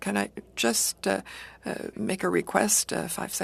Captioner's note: speaking French